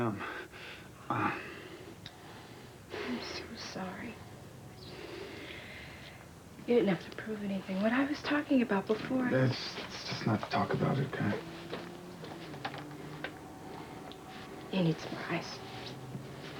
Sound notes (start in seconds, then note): 1.0 groan